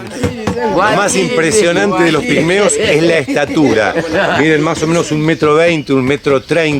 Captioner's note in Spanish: risas